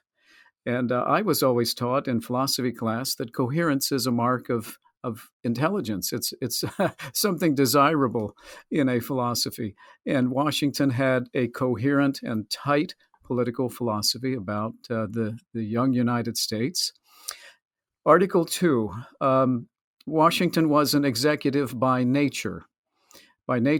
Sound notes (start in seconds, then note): 6.6 laughs